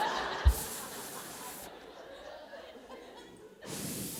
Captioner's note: blowing air; audience laughing